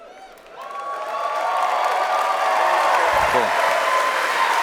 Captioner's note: cheers and applause